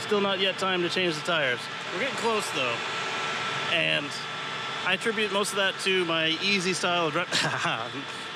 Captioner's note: laughter